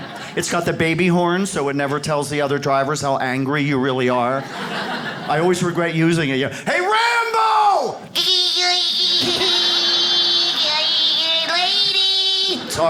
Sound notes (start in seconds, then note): 8.2 mimics little car horn; 11.1 audience laughs